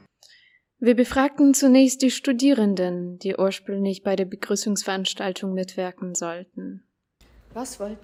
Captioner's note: voiceover